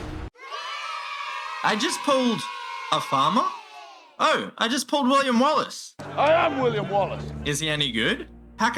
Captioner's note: cheer